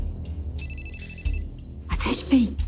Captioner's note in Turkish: Telefon ısrarlı çalıyor